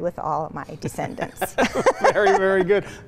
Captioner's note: both laugh